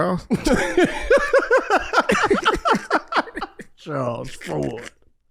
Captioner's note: laughing